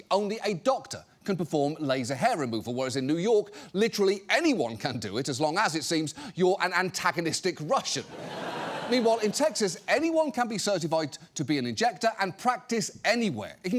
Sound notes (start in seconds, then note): 8.0 audience laughs